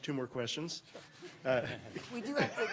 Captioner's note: audience chuckles